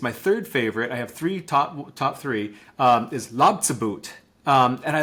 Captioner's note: speaking in Lushootseed language